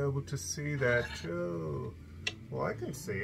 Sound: scraping

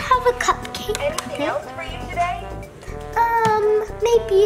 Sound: cash Register

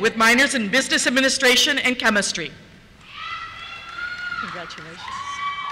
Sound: cheers

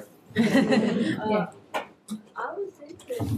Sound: people laughing

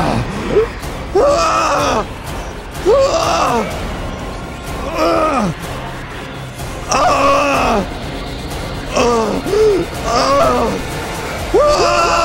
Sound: grunting; resonant whispers; screaming

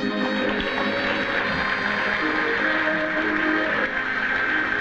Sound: audience applauds

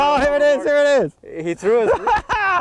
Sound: laughter

